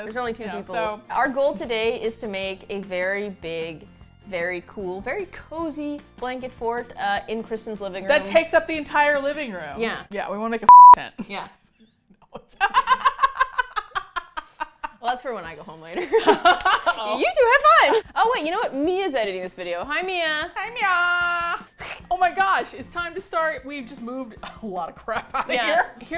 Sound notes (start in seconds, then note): 12.0 both laugh; 25.2 laughs